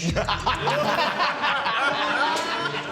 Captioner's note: laughter